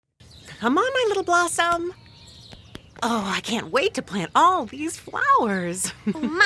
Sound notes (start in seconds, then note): 0.2 birds singing